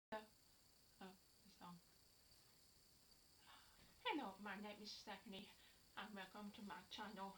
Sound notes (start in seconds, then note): 3.4 sigh